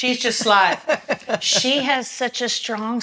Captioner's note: laughs